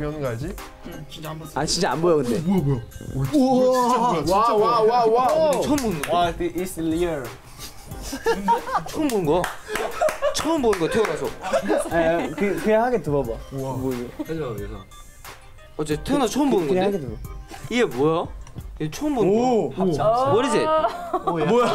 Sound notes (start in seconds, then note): 0.3 speaks in Korean; 5.2 claps; 7.7 speaking in Korean; 20.6 laughing